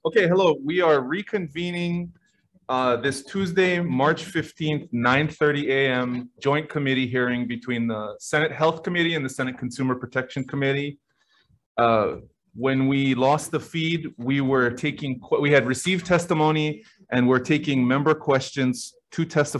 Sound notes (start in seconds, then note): none